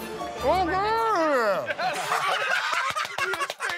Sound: laughter

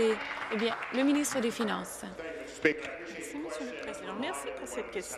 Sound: applause

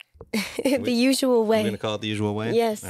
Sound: laughs

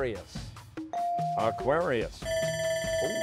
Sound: bell ringing

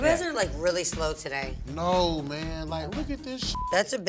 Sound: beep

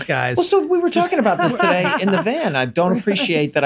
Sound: laughs

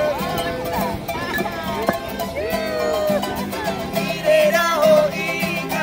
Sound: guests cheering; music in Foreign language

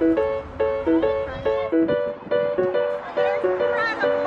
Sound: playful instrumental music; kids chattering; playful instrumental music

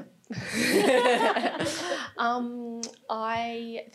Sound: all laughing

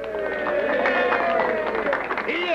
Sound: cheering

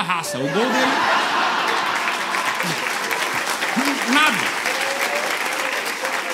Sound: applause

